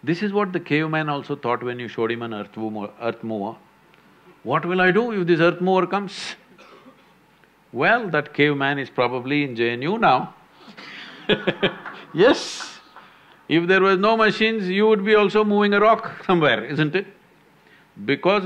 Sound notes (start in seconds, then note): 10.8 laughs